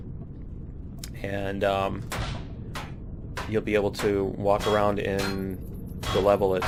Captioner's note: pinging